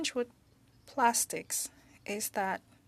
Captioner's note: speaking French